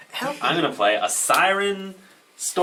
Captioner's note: all laugh